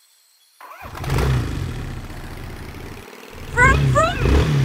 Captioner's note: engine starts